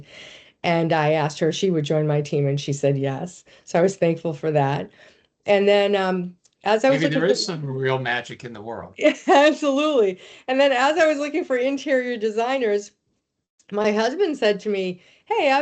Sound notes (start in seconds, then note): 9.4 chuckling